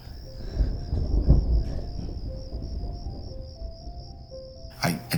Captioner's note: slow music; thunder rumbling